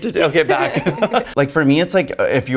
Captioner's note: both laughing